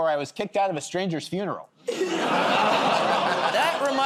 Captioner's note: laughter